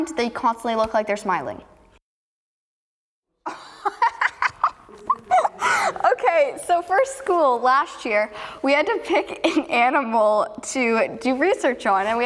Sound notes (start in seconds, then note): 3.7 laughs